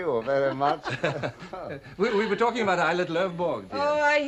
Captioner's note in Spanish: Risas